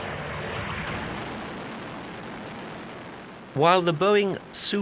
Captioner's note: plane roaring